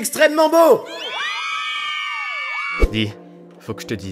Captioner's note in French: Cris de filles